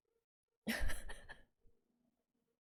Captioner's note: laughs